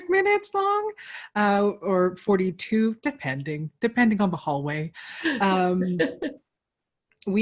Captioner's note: laughter